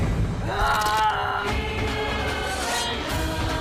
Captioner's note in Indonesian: berteriak